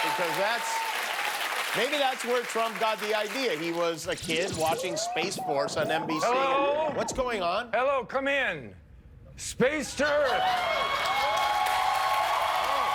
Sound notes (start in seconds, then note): 3.8 applause